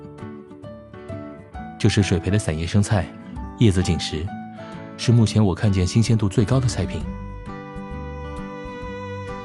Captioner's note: in a serious tone